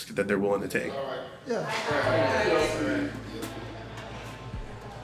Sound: people chattering

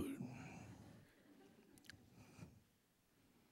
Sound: laughter

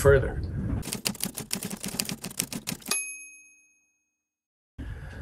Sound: typewriter keys clacking

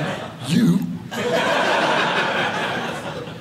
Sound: audience laughing

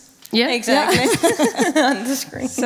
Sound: laughing

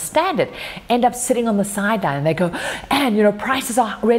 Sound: gasping

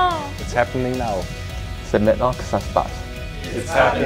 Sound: foreign language

